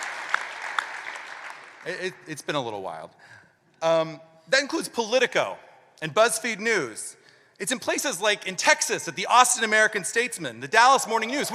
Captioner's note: applause